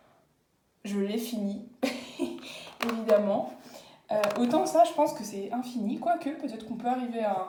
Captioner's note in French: rires